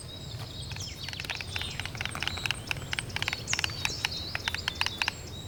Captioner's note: storks nattering